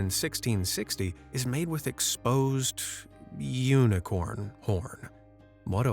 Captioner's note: sarcastically